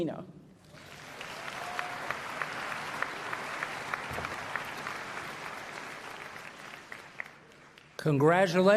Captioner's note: applause